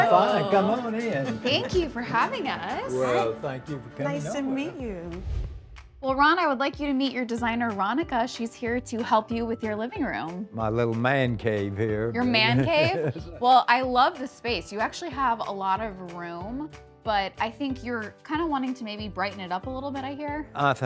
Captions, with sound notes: - I'm fine, come on in. - Thank you for having us. - Well, thank you for coming over. - Nice to meet you. - Well, Ron, I would like you to meet your designer, Rhonnika. She's here to help you with your living room. - My little man cave here. (laughs) - Your man cave? Well, I love the space. You actually have a lot of room, but I think you're kind of wanting to maybe brighten it up a little bit I hear?